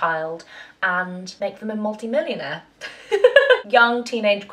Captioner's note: chuckles happily